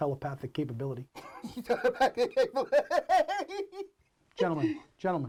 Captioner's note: Argento laughs